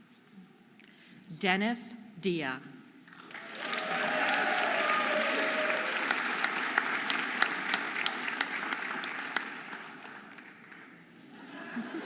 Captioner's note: audience applauding and cheering